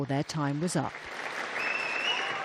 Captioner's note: cheering